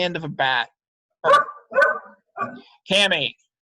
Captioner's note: dog barking